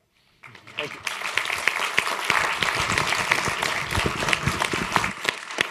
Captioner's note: applause